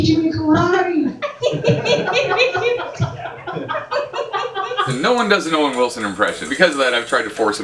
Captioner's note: laughter